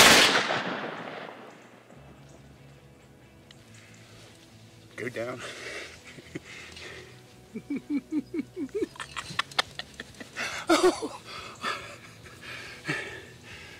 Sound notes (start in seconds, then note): 0.0 gunshot; 0.1 subdued music; 7.9 heavy breathing; 7.9 laughing